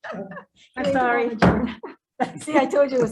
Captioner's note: group laughing; gavel bangs